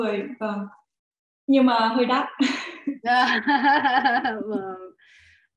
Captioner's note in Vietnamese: cười